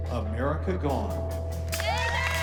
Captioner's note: cheering